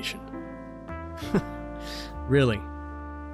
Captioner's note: laugh